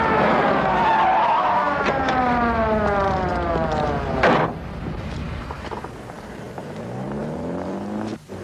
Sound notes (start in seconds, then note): 0.4 tires screech; 2.4 siren stops